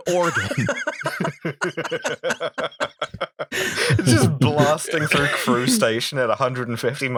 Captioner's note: laughter